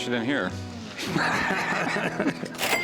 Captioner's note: laughter